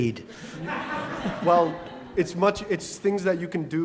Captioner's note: laugh